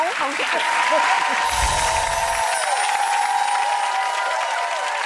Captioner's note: audience cheering